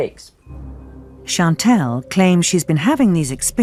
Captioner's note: voiceover